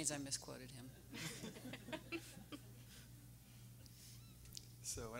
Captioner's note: everyone laughing